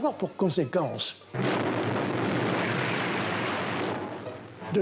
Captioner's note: explosion booms